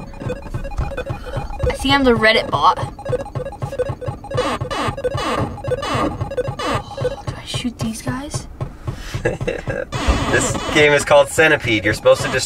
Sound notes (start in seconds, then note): 0.2 beeping; 3.4 beeping